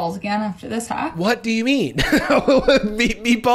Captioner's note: laughs